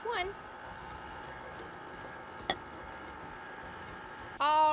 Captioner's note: mixer whirs